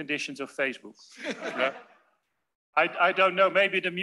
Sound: laughter

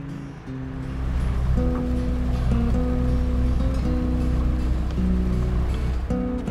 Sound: boat engine whirring

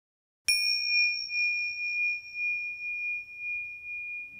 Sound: bell rings

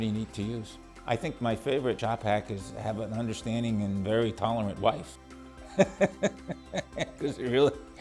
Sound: laughter

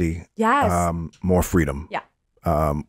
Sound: laughs

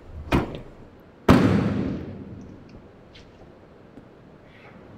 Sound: trunk slams

